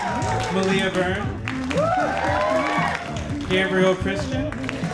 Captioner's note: audience applauding; audience applauding